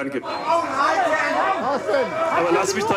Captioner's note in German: Geschrei